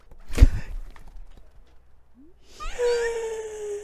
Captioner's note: gasp